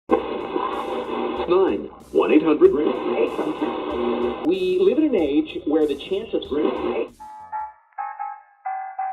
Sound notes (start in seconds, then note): 0.0 analog radio tuner scanning stations; 7.9 big band swing